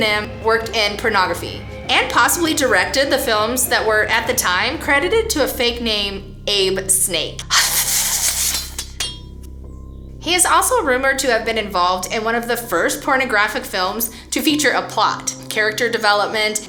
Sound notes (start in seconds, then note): 7.3 hissing sounds; 8.4 knives clattering